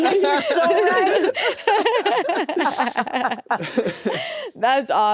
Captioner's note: everyone laughs